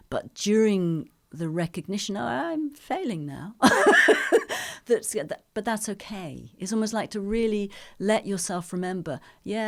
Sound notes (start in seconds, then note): 3.7 laughs